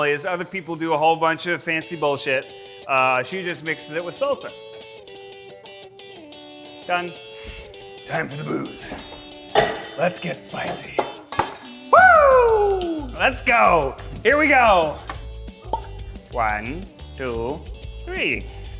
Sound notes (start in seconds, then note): 15.6 bottle pops